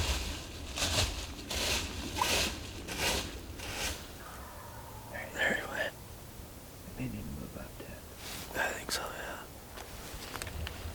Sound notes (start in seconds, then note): 0.0 scratching in leaves; 4.2 turkey gobbles